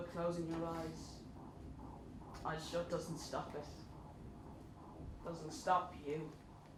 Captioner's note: ultrasound scan heartbeat